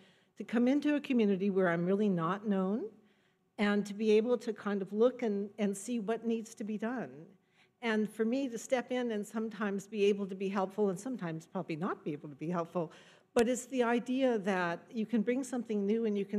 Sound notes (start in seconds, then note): none